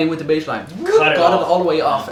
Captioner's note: whooshing